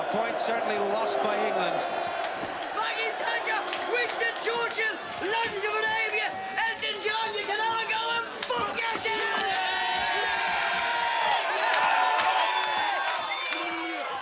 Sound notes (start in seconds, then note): 10.2 Aplausos